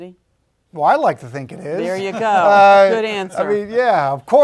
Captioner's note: laugh